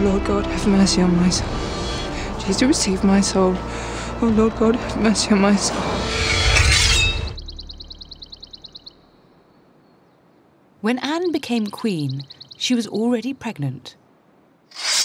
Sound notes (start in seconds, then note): 6.0 sword unsheathes; 6.7 birds chirp